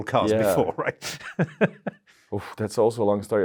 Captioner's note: laughs softly